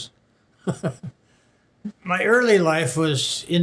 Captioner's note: laughs